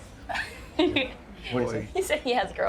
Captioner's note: laughing